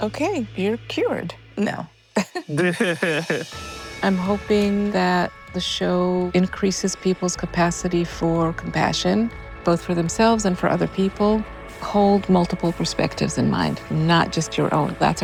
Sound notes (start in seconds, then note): 2.2 laughs